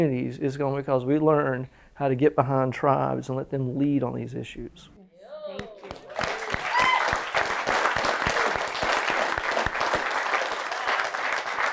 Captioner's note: applause